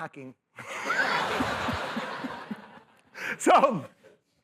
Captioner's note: laughter